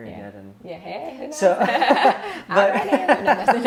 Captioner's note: laughs